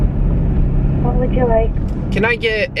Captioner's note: woman on phone